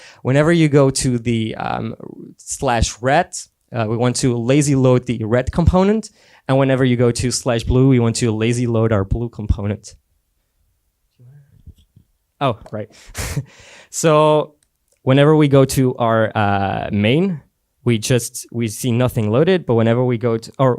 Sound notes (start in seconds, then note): 11.4 whispering; 13.2 laughs